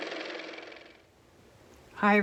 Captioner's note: car motor